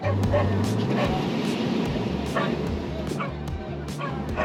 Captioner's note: Daisy barks